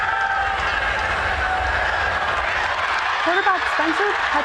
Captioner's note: cheering